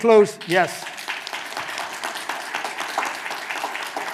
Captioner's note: clapping